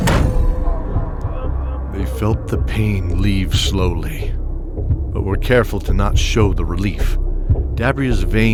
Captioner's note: groans from the men